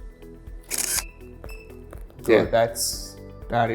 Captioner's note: camera shutters